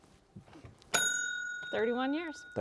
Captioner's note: bell dings